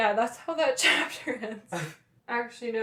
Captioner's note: laughter